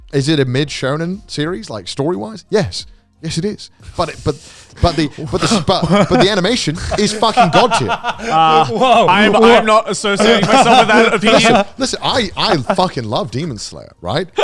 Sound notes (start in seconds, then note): 3.9 gasping; 11.5 laughing